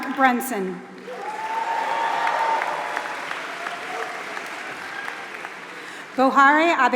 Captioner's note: applause